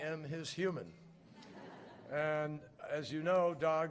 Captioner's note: laughter